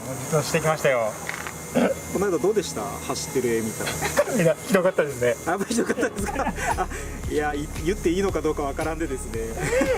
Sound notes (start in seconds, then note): 5.7 laughs